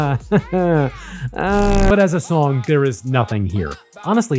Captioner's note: laughs